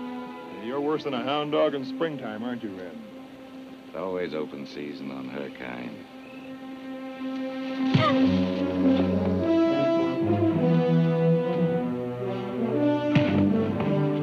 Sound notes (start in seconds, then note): 8.0 Reb grunts; 9.2 exciting music; 9.2 fists thunk